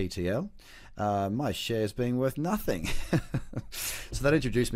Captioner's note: chuckles